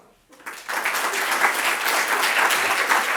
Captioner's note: applause